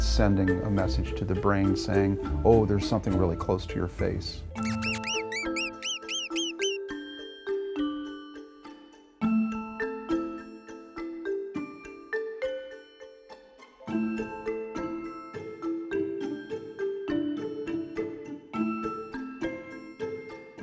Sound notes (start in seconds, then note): 4.6 mouse squeak